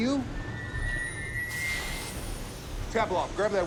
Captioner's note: exhaust hissing